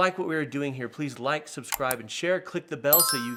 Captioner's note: mouse clicks